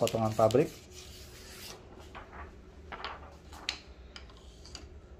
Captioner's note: PET film sound